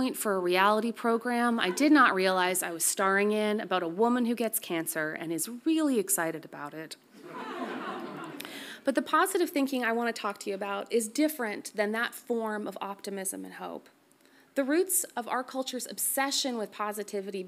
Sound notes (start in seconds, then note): 7.2 audience laughs softly